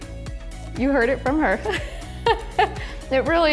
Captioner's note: laughs